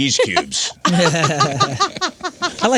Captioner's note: laughing